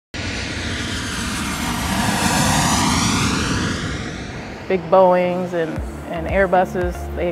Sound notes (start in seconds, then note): 0.1 roar of jet engines; 4.7 upbeat music